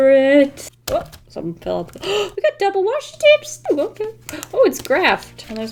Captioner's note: gasps